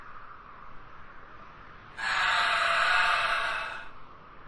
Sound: pained shriek

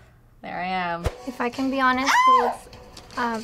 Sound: squealing

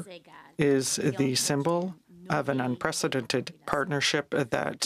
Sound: speaking french

